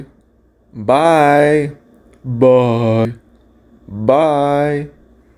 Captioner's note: speaking